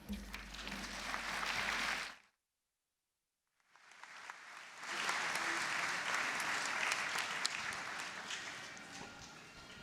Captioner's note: applause